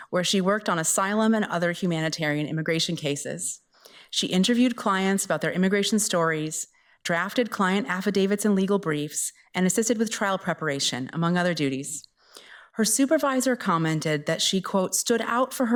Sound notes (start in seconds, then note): none